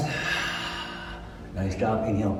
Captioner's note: exhale